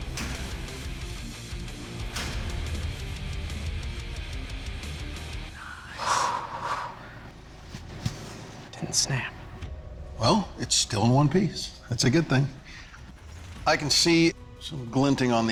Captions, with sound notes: Nice. [long exhale] It didn't snap. Well, it's still in one piece. That's a good thing. I can see some glinting on the edge here,